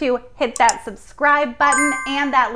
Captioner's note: mouse clicks; bell chimes